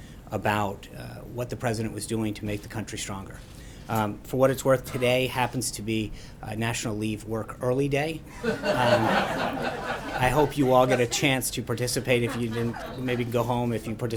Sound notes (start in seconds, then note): 8.3 laughter